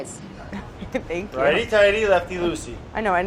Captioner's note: laughing